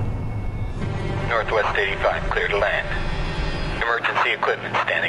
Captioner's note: man Over Radio